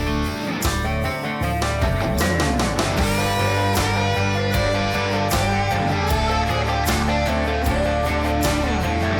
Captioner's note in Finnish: Aplodeja